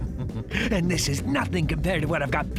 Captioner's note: laughing evilly